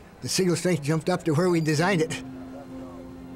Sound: chuckles

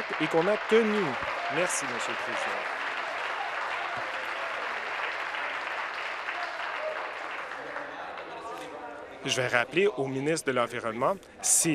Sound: applause

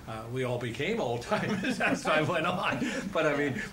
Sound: laughter

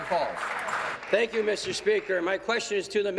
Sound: applause

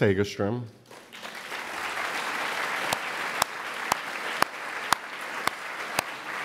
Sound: applause

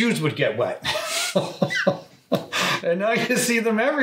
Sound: both laugh

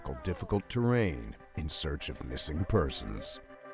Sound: voiceover

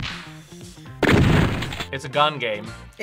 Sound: explosion echoes

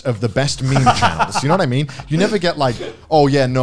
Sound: laugh

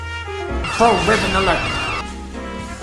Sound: slow jazz music; sirens; slow jazz music

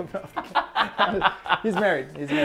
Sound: laughing

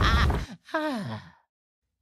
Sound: Ben Shapiro laughing violently; sigh

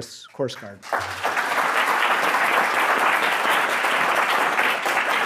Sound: audience applauds

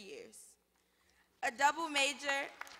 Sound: applause

